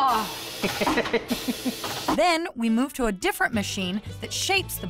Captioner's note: laughing